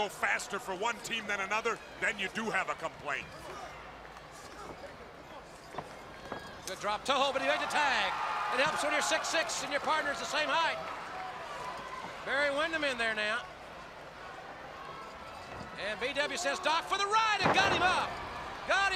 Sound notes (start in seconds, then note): 10.1 crowd cheering; 17.7 crowd chatter